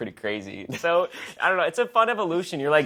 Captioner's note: laughs